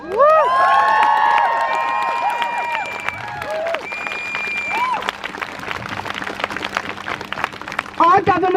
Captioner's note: crowd Cheers